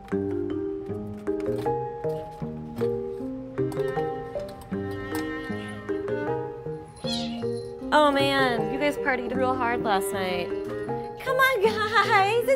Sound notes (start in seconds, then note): 5.2 gentle piano music; 7.0 cats meowing